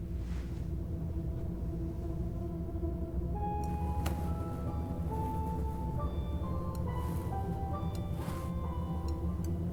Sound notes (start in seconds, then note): 3.8 clicking; 3.8 suspenseful music